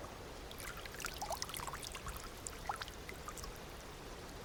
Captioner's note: water drops